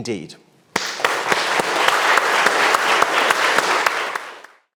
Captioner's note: audience applauds